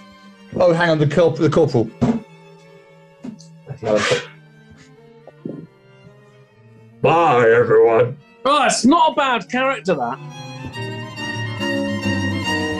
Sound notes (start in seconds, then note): 6.7 gruffly